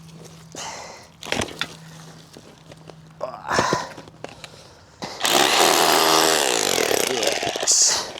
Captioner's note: drill whirring